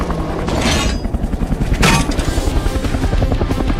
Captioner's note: helicopter whirring